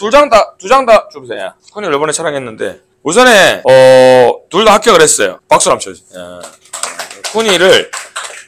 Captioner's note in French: Applaudissements